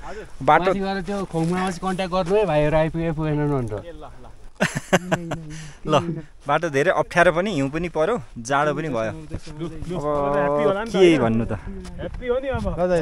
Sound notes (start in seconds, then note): 4.6 laughter